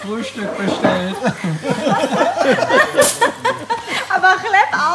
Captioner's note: laughter